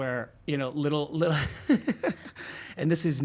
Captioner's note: laughs